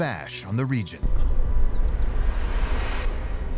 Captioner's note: deep rumble